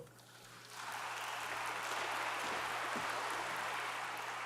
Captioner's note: audience applauds